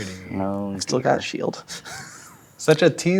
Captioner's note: chuckles